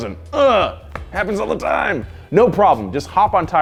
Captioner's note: groans